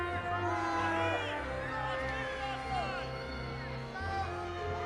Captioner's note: audience murmuring